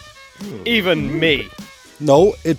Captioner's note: crowd murmers